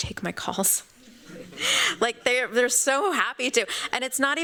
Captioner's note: laughs